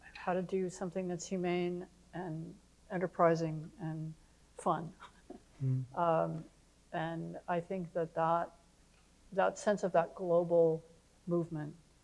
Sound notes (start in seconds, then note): none